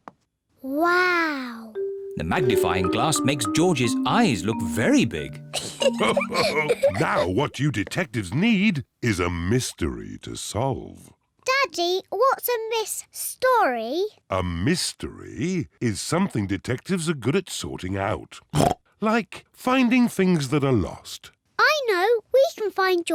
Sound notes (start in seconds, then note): 3.7 both laugh